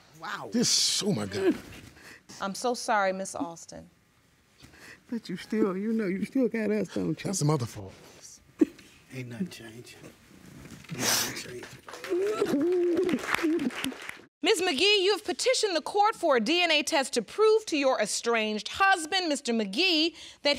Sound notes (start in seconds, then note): 10.9 sniffles and sobs; 11.0 audience applauds